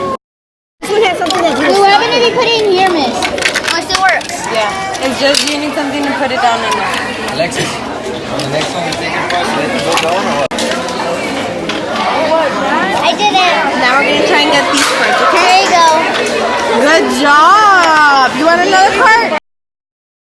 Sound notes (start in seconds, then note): 0.0 speaks in foreign language; 9.9 chattering drowns out rest